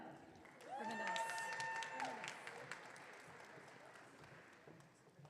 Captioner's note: audience cheering